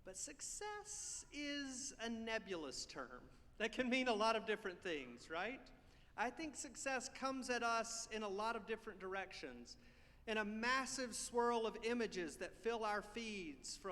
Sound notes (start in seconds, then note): none